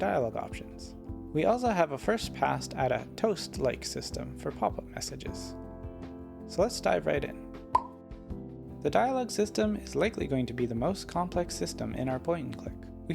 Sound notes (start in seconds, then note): 7.7 pop